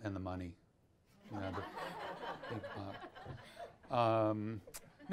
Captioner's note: audience laughs